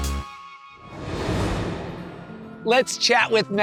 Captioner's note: transition whooshes